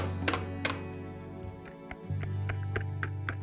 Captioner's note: egg cracking